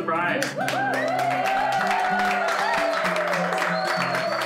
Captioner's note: cheers and applause